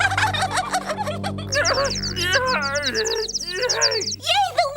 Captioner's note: giggling; groaning and birds chirping